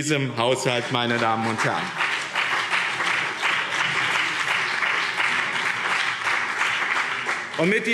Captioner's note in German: Beifall BÜNDNIS 90/DIE GRÜNEN und CDU